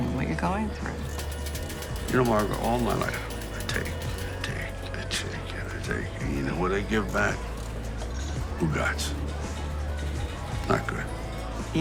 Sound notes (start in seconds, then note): 8.6 speaking foreign language